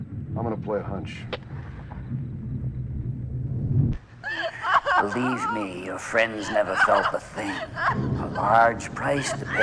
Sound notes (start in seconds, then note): 4.2 Liz sobbing and whining